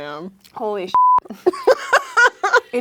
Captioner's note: beep; laughing